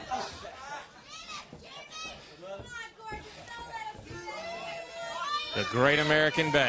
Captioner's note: crowd chatter; crowd cheering; crowd chatter